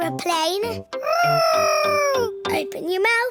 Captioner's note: imitating aeroplane